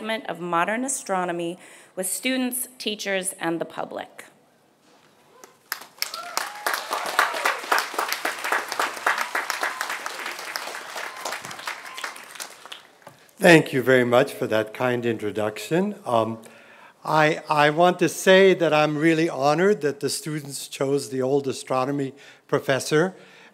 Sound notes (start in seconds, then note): 5.4 applause